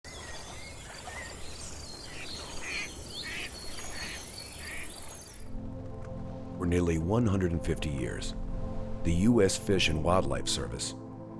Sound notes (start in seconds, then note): 0.0 birds chirping